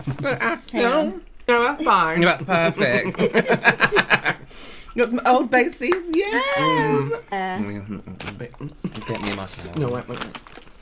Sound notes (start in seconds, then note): 2.8 bullying Laughter